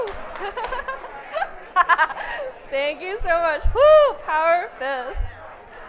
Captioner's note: laughing